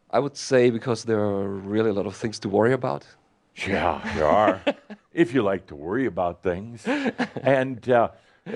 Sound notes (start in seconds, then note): 6.6 chuckles